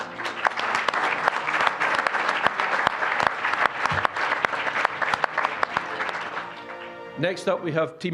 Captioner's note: applause